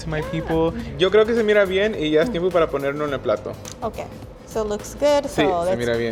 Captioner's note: speaking Spanish